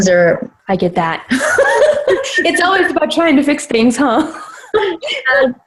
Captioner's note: they both laugh